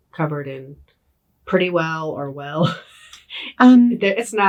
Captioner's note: laughs